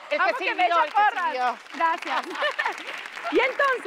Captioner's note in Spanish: Aplausos